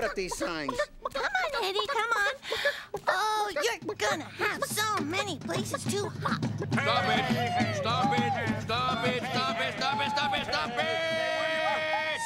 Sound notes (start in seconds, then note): 6.8 Walter and Clay whooping and shouting